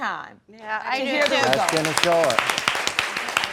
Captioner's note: audience applauding